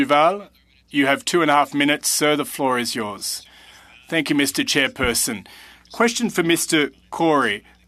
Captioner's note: speaking French